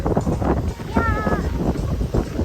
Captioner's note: overly hyped tone